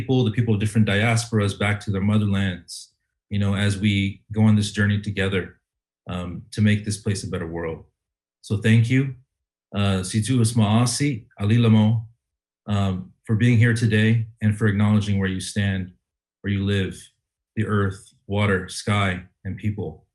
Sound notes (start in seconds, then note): 9.9 speaks Ojibwe language